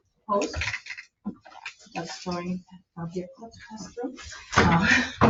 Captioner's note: speaking faintly